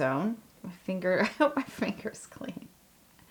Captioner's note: laugh